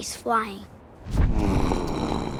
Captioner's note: grunting